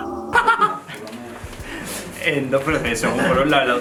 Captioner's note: he laughs